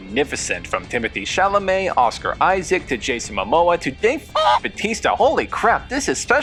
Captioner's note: cluck